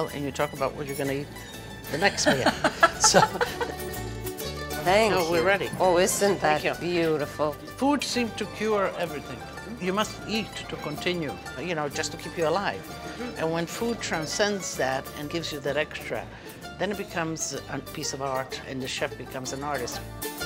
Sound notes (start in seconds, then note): 2.0 laughing